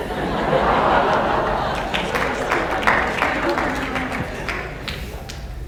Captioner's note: laughter/Applause